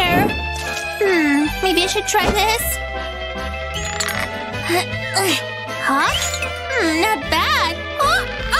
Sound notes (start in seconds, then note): 2.0 groans